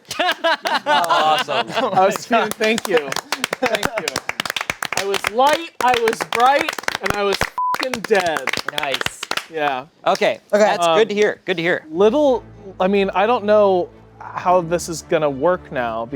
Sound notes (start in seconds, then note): 0.0 laughing; 1.6 clapping; 4.1 everyone clapping; 7.6 beep